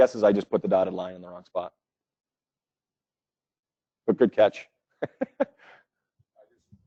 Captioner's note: laugh